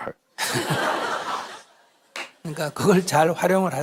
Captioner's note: /Audience Laughter